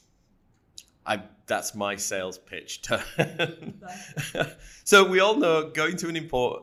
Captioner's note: laughing